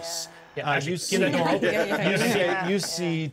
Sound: speaker laughs

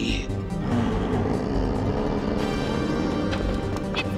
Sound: growling

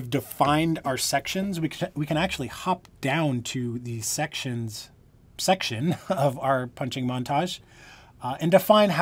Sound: laughter

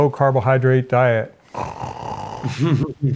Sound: snoring sound

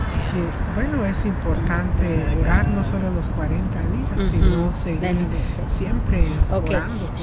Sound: Spanish

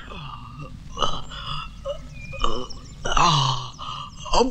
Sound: birds Chirping

